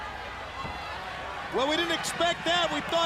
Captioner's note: crowd cheering